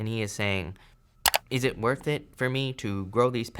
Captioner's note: button clicks